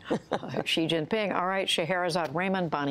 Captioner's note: laughter